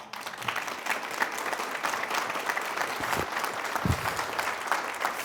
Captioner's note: applause